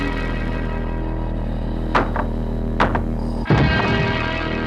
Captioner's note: pounding on wall